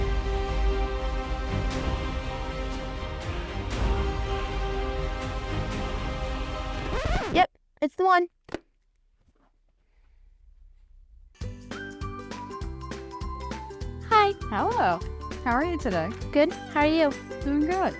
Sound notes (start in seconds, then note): 0.0 intense music; 6.9 disc screeching; 11.4 upbeat music